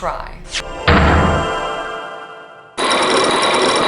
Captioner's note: magical hum, pound!; chains grinding!